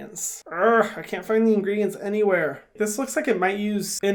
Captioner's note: groans